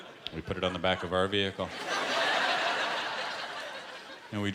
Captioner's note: laughter